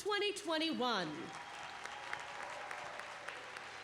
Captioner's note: clapping